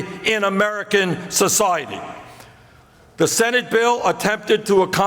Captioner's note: none